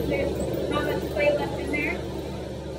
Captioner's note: mixing sounds